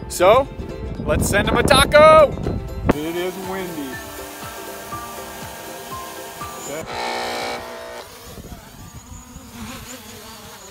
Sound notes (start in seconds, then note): 4.8 drone running; 6.6 buzzer sounding